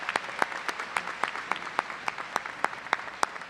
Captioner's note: applause